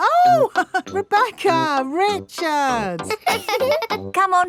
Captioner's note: laughs; chuckles; both laughing